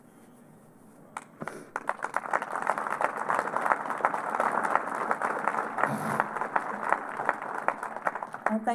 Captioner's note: applause